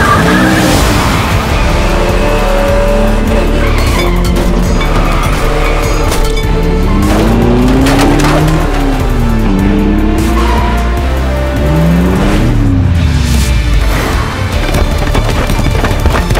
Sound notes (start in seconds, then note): 0.3 dramatic music; 3.5 clanking